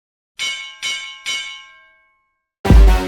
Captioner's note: bell chiming; upbeat bass music